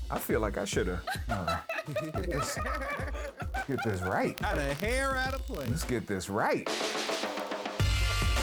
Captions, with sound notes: I feel like I shoulda. (laughing) Get this right. - Out of here, out of place. - Let's get this right.